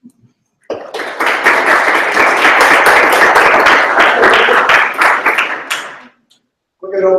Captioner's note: applause